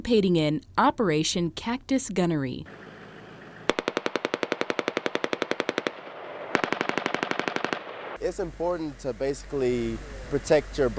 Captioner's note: take nat....sounds of gun shots